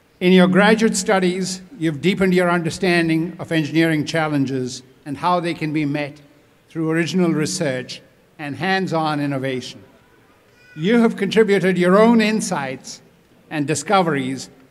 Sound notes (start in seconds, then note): none